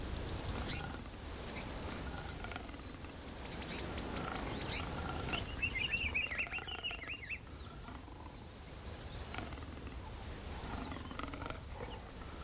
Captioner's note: growling lightly